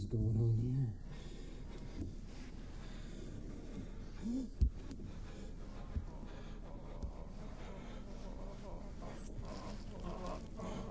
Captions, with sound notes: What the hell's going on here? (eerie moaning)